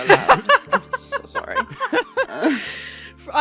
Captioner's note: laughter